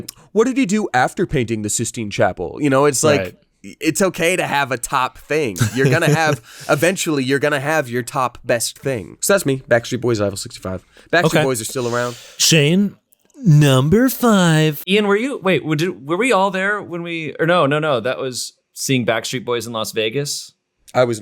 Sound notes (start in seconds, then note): 5.6 laughing